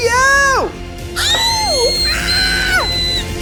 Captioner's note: screams